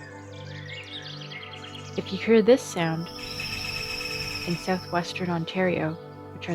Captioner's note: loud chirp